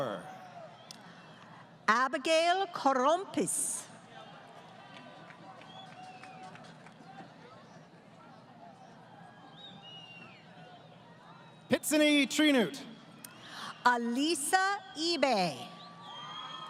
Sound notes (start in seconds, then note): 4.4 applause; 15.6 crowd Cheering